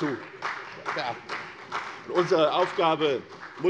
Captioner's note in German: Beifall CDU und vereinzelt BÜNDNIS 90/DIE GRÜNEN